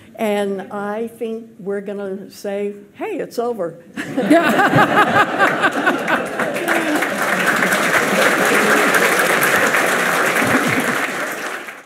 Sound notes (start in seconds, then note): 3.6 laughs; 4.0 audience laughs; 7.0 audience clapping